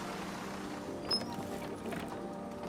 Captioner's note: brakes squeal